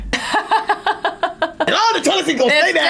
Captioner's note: laughs